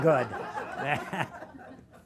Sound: laughter

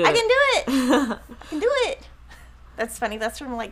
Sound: laughing

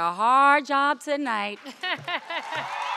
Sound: laughing; crowd cheering

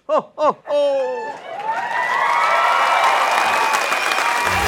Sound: belly laugh

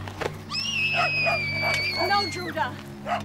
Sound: screaming

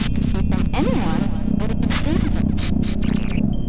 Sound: in static

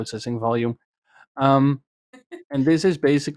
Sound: laughs

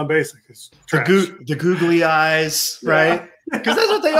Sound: laughs

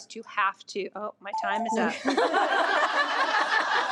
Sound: timer beeps; audience laughs

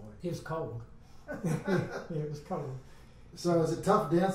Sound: men laugh

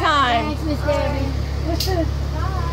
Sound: laughing

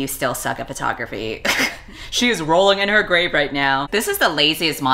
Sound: laughs

